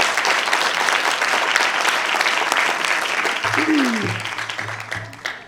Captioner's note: applause